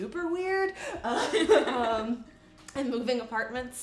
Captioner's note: laughing